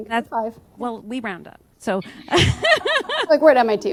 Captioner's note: laughter